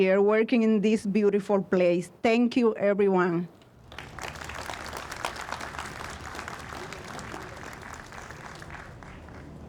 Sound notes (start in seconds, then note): 3.8 audience applauds